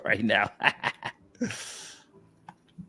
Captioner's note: laughs